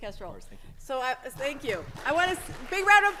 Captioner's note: audience clapping